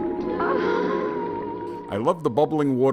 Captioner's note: Liz groans